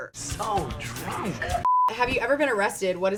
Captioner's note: beep